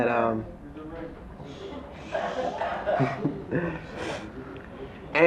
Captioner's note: audience mumbling